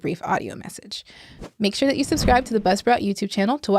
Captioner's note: whooshing